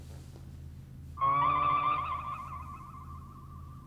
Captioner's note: computer whirs